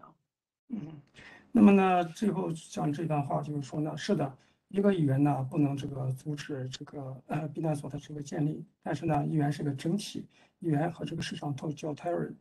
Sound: speaks in Mandarin

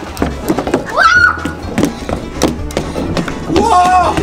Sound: screams

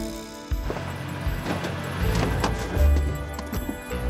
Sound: engine shuts off

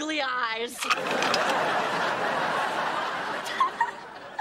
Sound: audience laughing

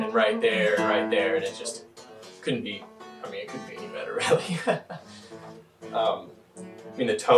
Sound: chuckles

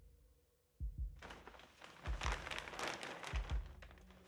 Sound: heart beating

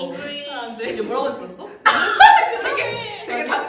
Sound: laughs

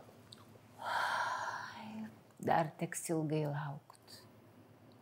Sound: sigh

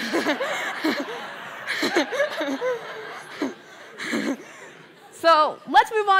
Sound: laughter

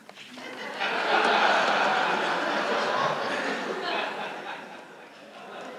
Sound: laughter

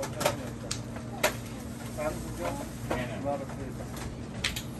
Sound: crowd chattering

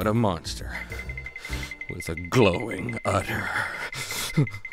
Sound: shuddering

